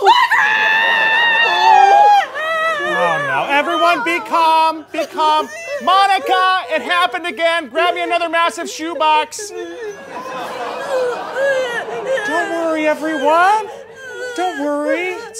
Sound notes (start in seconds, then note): 0.0 screaming; 3.0 crying; 12.2 crying